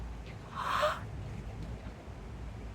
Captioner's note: gasp